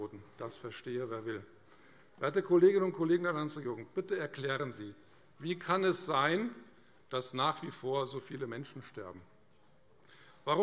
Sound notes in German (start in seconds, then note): none